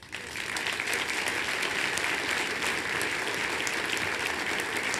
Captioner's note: applause